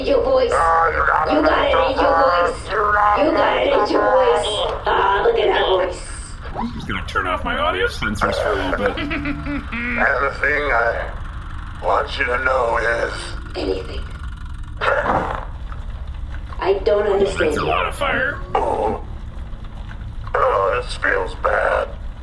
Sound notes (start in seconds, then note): 10.1 chuckles